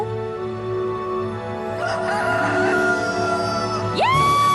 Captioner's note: rooster crows